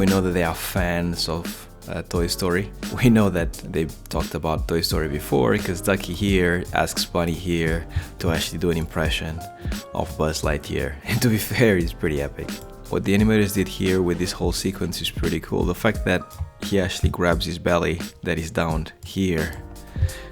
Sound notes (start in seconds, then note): 0.0 laid back jazzy music; 12.2 laughs